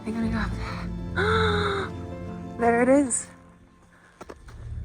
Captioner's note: gasps